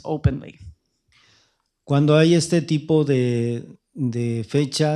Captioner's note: speaking spanish